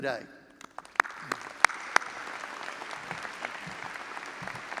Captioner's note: all applauding